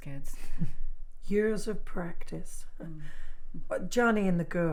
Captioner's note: chuckles